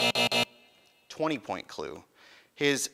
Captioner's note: buzzing